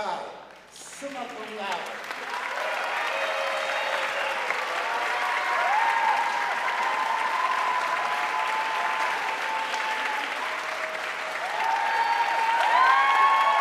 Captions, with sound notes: Minori Sakai, summa cum laude. (audience cheering and applauding)